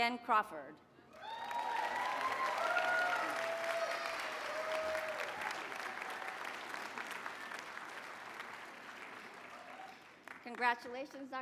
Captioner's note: applause